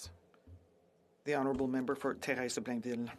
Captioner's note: speaking French